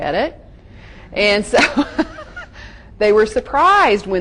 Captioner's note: laughs gently